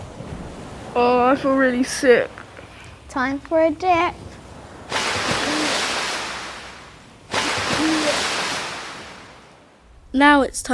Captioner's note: dipping sound